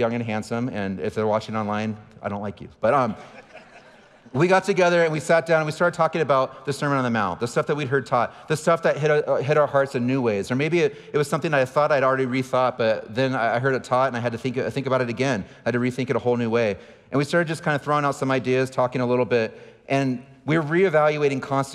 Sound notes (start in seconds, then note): 2.9 audience laughing